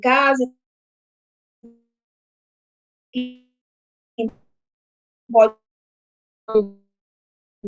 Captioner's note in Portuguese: sem audio